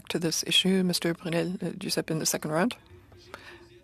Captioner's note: speaking French